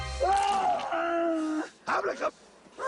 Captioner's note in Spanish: Quejidos